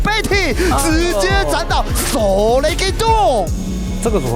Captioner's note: makes Yasuo noises